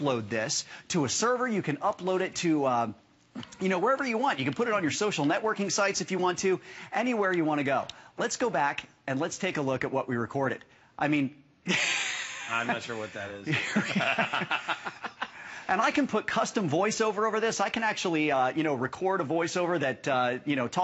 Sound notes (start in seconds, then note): 11.6 laughter